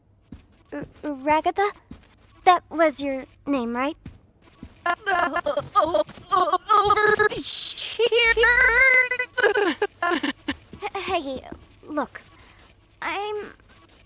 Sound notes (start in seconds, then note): 4.7 voice glitching, stuttering continuously